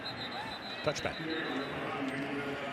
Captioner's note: whistle